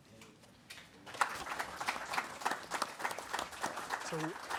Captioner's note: audience applauds